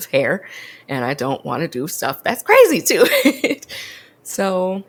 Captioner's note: laughs